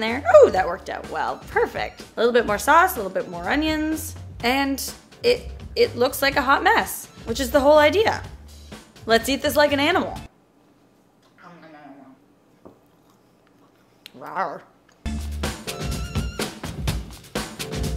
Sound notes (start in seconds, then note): 11.4 soft playful growling; 15.0 upbeat music